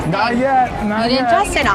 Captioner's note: crowd cheering